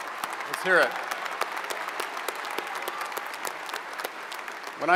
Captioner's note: audience applauds